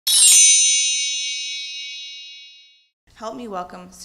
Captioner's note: chiming bells